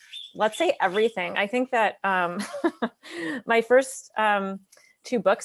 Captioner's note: laughs